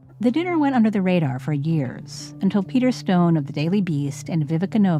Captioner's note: none